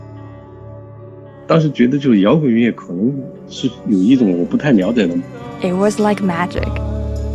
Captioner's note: speaking Mandarin Chinese